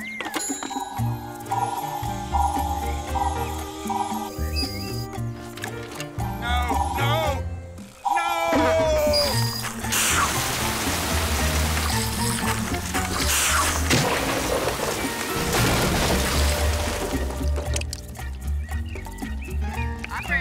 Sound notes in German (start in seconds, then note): 0.4 ding; 1.4 Signal ertönt; 6.3 Signal ertönt; 9.8 lautes Sprudeln; 17.9 Vögel zwitschern